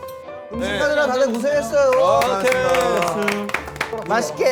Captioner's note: round of applause